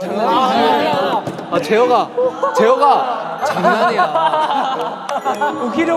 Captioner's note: laughing